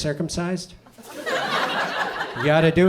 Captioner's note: audience laughs